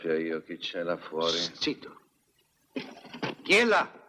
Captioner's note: clattering